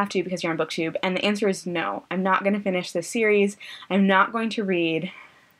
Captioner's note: anxious breath